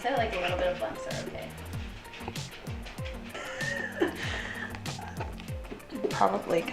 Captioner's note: laughing